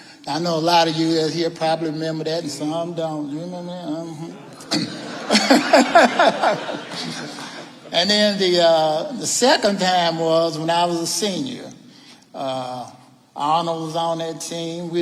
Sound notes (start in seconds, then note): 4.2 all laughing